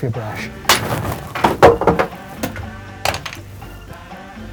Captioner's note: wood banging